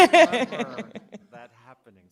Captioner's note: laughter